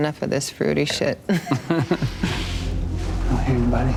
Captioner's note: both laughing